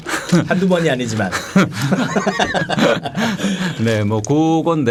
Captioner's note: chuckling